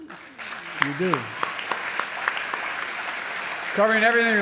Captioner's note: applause